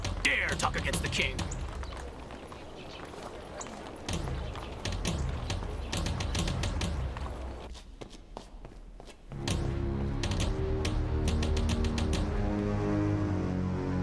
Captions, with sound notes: - How dare you talk against the king? (footsteps) (somber orchestral music)